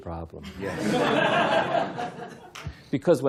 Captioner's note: laughter